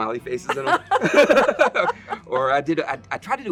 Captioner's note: both laugh